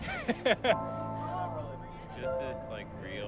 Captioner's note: laughing